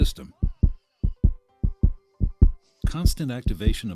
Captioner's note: heart throbbing